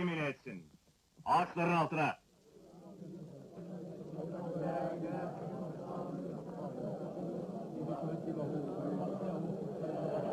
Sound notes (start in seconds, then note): 2.7 crowd murmuring